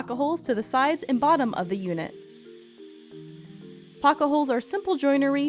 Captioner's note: drill whirs